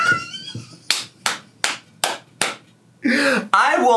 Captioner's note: laughing; clapping